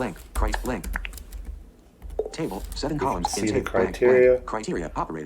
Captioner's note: computer voiceover